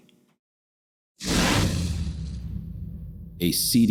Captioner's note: dramatic swishing